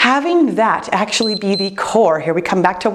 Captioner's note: timer beeps